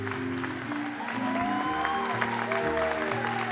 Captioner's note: applause; cheering